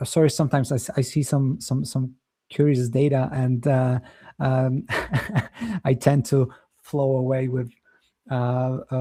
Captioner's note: chuckles